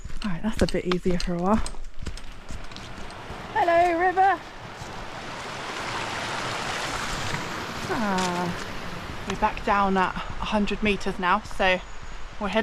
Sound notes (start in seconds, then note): 4.9 water